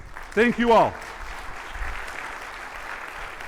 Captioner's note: audience clapping